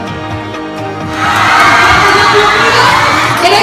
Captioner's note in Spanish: vítores